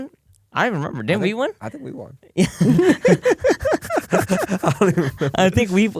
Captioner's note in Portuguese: risos